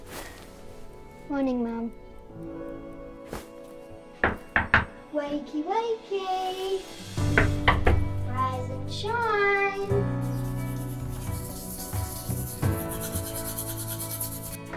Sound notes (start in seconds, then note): 4.2 hand knocking on door; 7.3 hand knocking on door; 10.5 gentle orchestral music continues